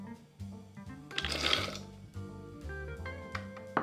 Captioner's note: nuts dropping